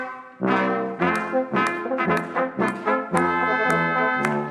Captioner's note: audience clapping